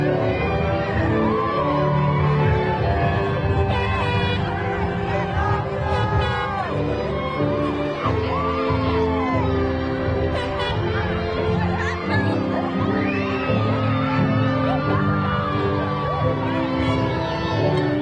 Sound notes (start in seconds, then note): 0.2 graduation music continues; 5.4 crowd cheering